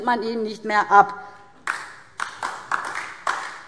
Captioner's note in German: Beifall DIE LINKE